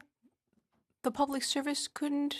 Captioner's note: speaking French